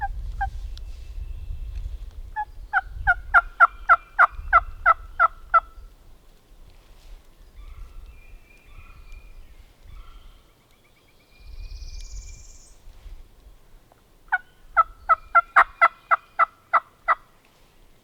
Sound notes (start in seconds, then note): 0.3 turkey calls; 14.2 turkey calls